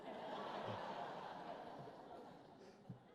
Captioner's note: laughter